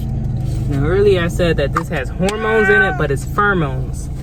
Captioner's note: meow